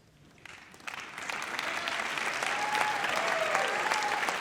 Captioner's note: audience applauds